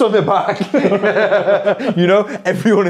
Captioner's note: people laughing